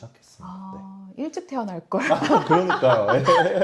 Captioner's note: laughs